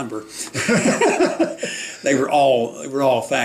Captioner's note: both laughing